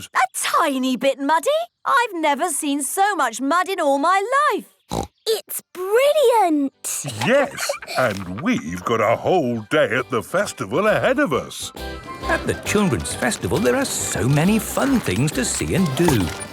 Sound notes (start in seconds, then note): 6.9 laughs; 11.7 festival buzz and music